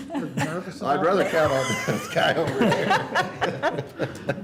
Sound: laughter

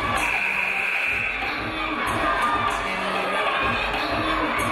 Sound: game buzzer buzzes

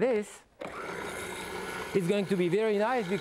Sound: motor whirring

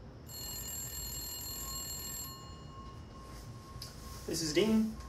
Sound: phone rings

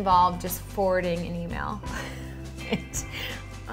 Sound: laughs

